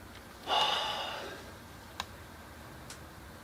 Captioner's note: sigh